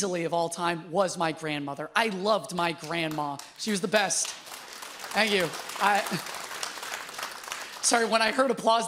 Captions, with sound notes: of all time, was my grandmother. I loved my grandma. She was the best. (audience applauds) Thank you. Sorry, when I heard applause there,